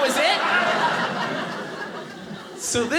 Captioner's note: audience laughing